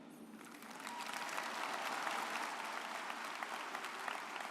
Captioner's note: audience applauds